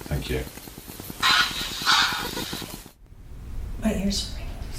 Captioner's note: distorted voice: "I confirm."